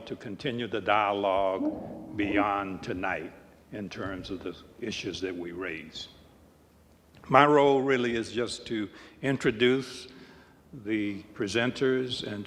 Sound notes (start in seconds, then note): none